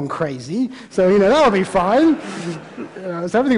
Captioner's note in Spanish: Risas